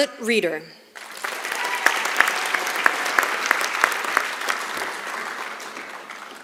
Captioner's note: applause